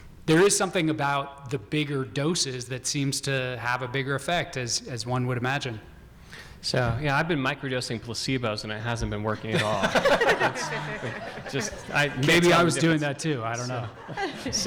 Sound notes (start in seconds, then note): 9.4 audience laughing